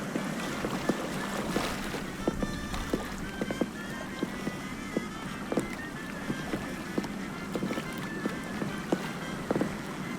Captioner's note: waves of river lapping fx